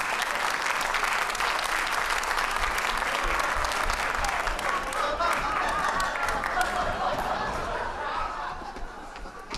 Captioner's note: applause